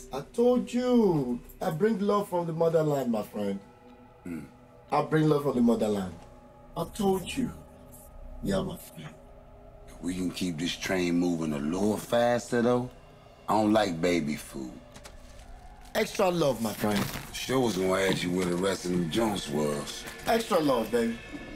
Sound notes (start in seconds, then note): 14.8 bricks of heroin crunching